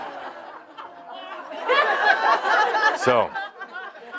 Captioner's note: more laughter